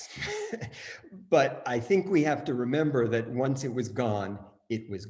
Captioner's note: chuckles